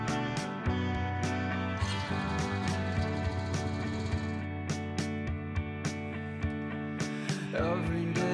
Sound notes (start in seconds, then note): 1.6 engine roars